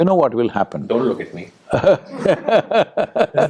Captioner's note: Sadhguru laughs